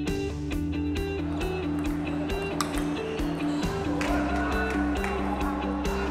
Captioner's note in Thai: เสียงตีปิงปอง